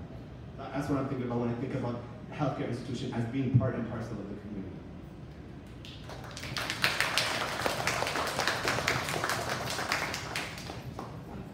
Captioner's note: audience: applause